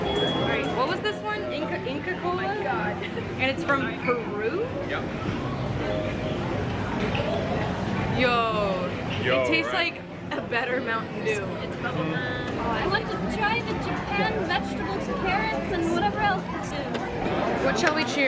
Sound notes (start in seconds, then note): none